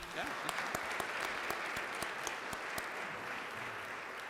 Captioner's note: crowd clapping